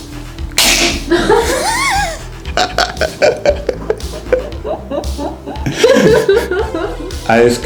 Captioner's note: laugh